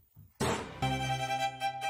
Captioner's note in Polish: uderzenie; muzyka skrzypcowa